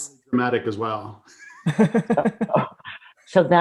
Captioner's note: laughing